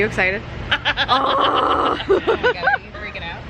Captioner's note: laughing